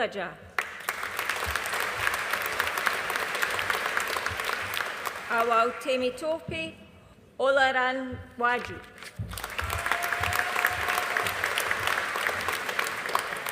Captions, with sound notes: (AUDIENCE APPLAUDING) Hawau Temitope Olanrewaju. (AUDIENCE APPLAUDING)